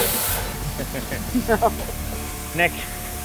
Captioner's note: laughs